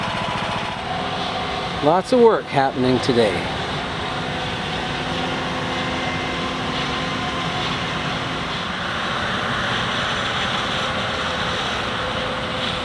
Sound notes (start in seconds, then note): 8.1 machinery noises